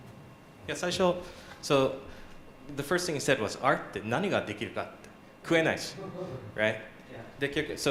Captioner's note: japanese